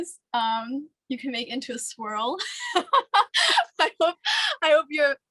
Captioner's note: laughs